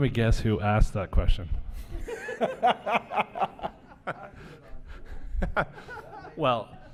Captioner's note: laughter